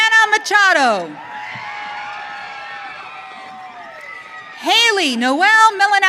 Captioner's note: audience cheering